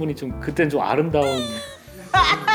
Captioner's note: heh heh